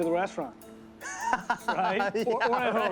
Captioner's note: laughs